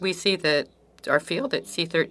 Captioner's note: speaking French